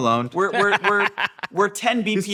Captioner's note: laughing